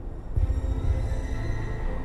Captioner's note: train whistles